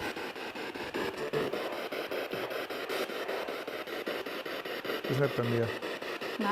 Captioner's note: radio goes crazy again